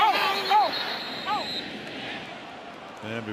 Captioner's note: whistle blows